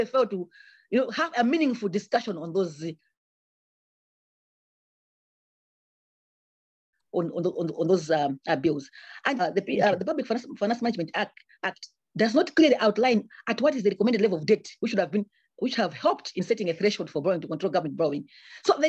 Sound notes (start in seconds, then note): 3.5 audio cuts out; 9.4 audio distorts